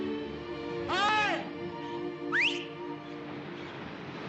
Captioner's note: whistles